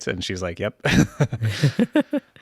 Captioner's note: both laughing